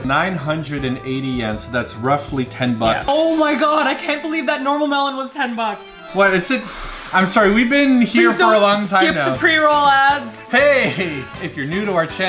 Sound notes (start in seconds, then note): 3.0 glass shattering; 10.8 laughing